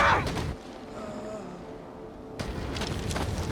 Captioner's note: groaning